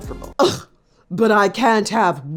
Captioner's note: grunts